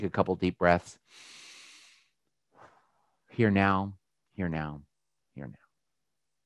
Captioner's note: breathes deeply